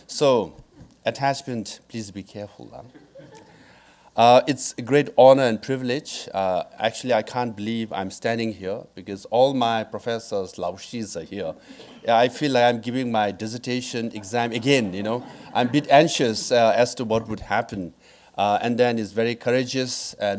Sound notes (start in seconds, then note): 2.9 audience laughing; 10.7 speaking in foreign language